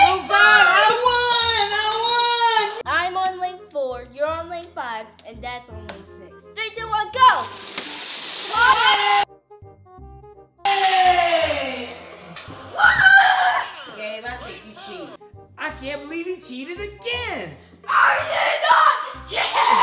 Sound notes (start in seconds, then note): 0.0 child cheering; 8.6 crowd cheering